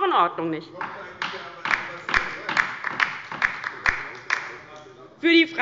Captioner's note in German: Beifall bei der LINKEN